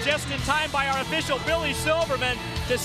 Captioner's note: crowd cheering